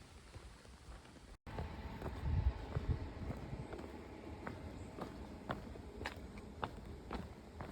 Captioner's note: fading train noise